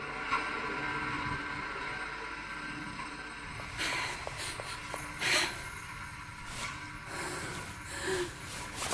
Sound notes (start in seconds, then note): 4.3 Julie panting